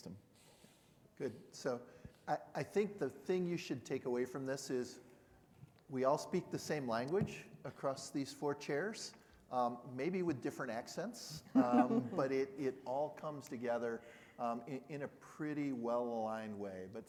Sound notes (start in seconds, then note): 11.6 panel laughing